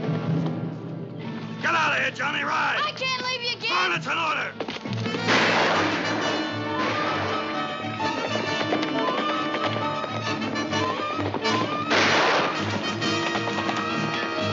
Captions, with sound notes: Get out of here, Johnny. Ride! I can't leave you, Gabe. Go on, that's an order! ( gunfire ) ( dramatic theme playing )